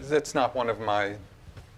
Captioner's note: none